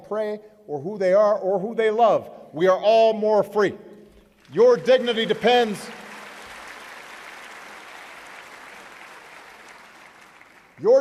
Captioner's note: applause